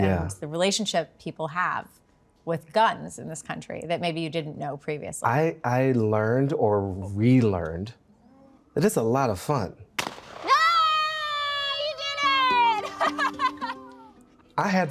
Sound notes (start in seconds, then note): 9.9 gun blasts; 10.4 people cheer; 12.5 people laughing